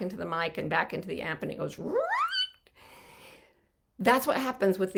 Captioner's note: squeaks